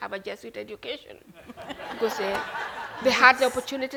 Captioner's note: attendants laughing